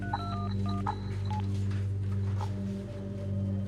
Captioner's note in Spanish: Sonido al marcar